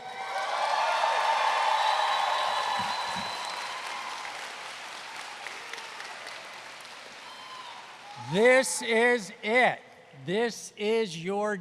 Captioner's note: cheers and Applause